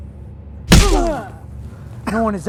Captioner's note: punch smacking; David grunting